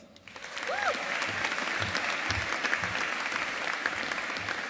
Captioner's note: audience applauding